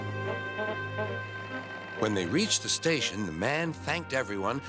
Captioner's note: toots